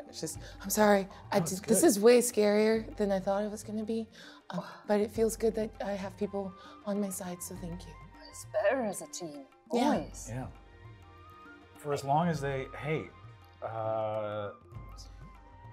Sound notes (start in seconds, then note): none